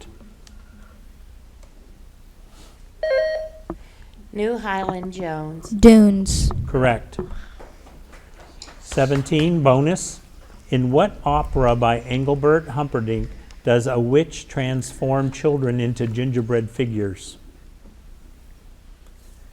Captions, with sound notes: (button buzzing) - New Highland, Jones. - Dunes. - Correct. (audience applauding) 17, bonus. In what Opera by Engelbert Humperdinck does a witch transform children into gingerbread figures?